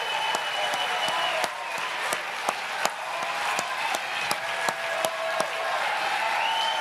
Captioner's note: applause